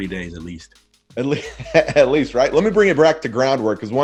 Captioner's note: chuckles